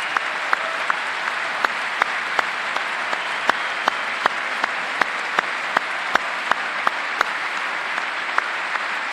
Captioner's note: applause